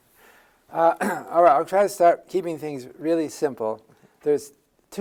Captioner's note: cough